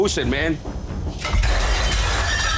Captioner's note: clattering